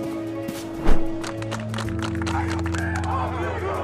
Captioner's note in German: Klatschen, Stimmengewirr